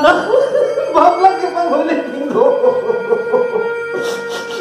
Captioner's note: crying